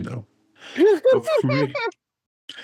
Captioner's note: laughing